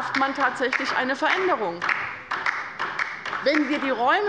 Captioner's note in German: Beifall bei der LINKEN und dem BÜNDNIS 90/DIE GRÜNEN